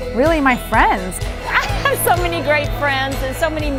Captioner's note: laughing